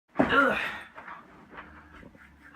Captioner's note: grunts, sighs